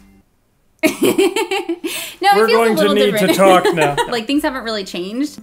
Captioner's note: laughs